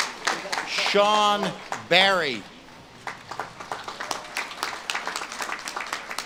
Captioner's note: audience claps and cheers